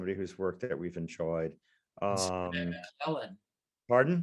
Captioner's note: speaking faintly